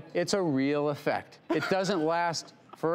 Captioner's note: laughs